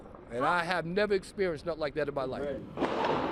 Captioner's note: gunshots